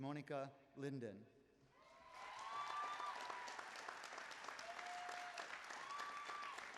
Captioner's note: applause